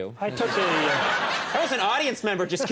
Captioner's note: audience laughs